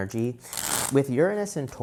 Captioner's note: cards shuffling